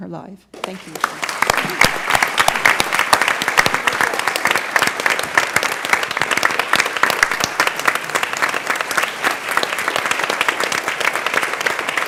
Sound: applause

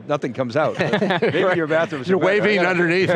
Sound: laughter

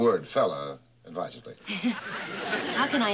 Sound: laughing

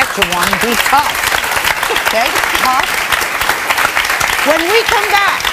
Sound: audience clapping

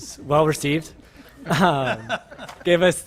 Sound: laughter

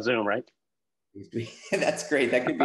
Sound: laughs

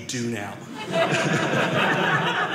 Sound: audience laughing

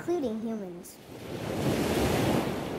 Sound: water rushing

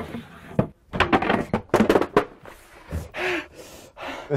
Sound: wood smacking; panting

